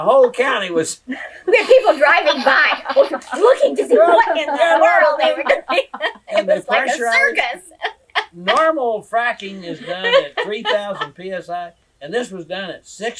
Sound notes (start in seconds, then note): 7.5 laughs